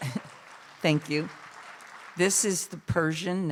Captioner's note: cheers, applause